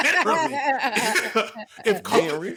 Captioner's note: laughing